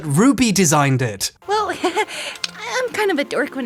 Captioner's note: giggles